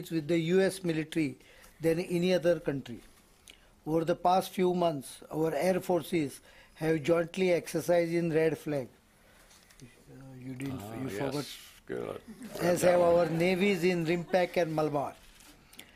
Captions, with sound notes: with the U.S. military than any other country. For the past few months, our air forces have jointly exercised in Red Flag. Oh, you didn't... you forward? - Ah, yes, spill it. (audience laughs) - As our navies in RIMPAC and MALABAR.